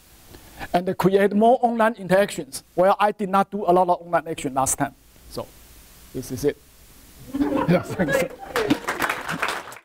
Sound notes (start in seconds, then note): 7.2 laughter from audience; 8.2 applause